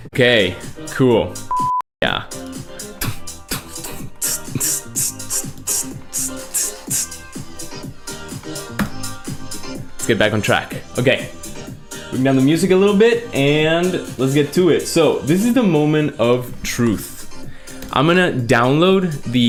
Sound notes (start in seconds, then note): 5.6 beatboxes